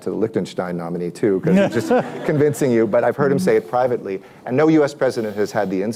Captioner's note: laughter